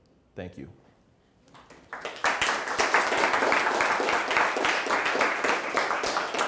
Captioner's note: applause